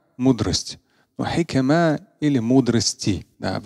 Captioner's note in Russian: Говорит на арабском